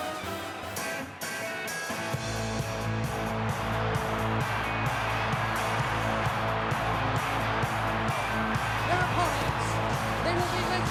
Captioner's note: crowd cheering